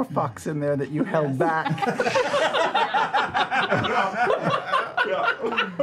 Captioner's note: laughter